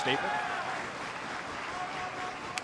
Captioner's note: crowd cheering